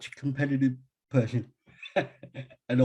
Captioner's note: laughter